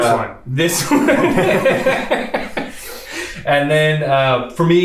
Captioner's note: both laughs